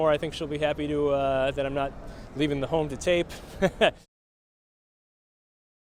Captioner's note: laughs